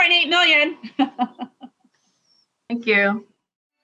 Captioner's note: laughing